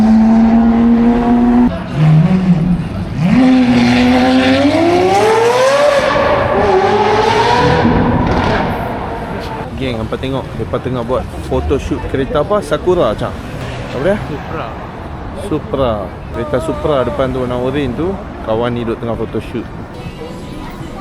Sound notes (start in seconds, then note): 7.4 The screams of a Lamborghini